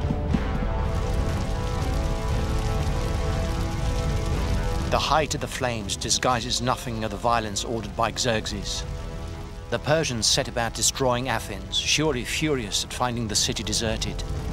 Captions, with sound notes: (fires roaring) The height of the flames disguises nothing of the violence ordered by Xerxes. The Persians set about destroying Athens, surely furious at finding the city deserted.